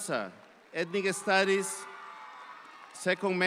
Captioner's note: audience applauds